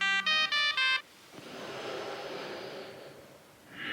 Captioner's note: music stops, heavy breathing